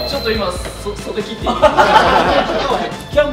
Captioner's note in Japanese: 笑い